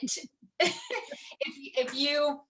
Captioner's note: laughter